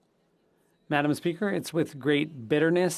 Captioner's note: speaking French